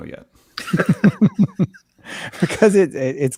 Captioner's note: both laughing